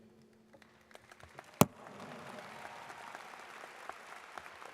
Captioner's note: audience claps